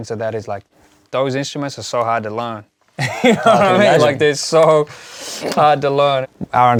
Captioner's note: laughs